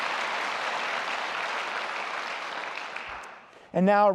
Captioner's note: applause